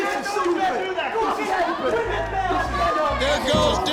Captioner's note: group shouting